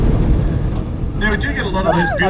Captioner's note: laughs